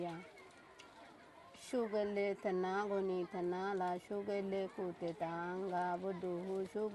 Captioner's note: speaking burmese